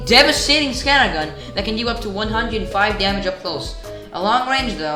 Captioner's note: inhale